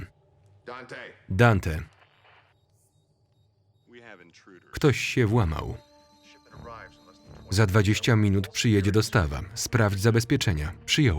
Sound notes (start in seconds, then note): 5.0 beeping